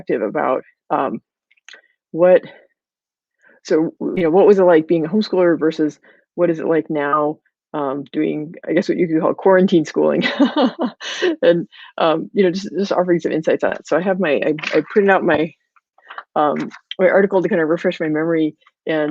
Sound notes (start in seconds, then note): 10.4 laughing